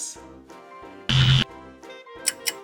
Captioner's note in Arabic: صوت طنين; صوت ساعة